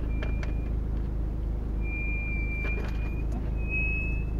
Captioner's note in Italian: freni che fischiano